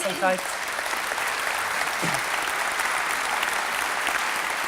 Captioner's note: applause from the audience